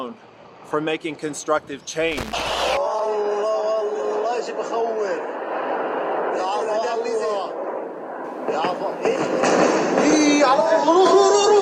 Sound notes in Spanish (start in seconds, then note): 4.5 Voces preocupadas; 8.2 Sonido de explosiones